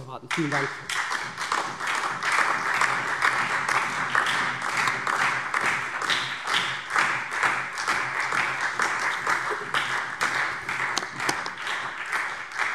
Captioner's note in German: Beifall SPD und DIE LINKE